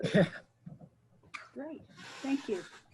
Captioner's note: chuckling